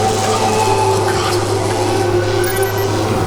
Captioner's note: crackling of electricity; underwater Marv scream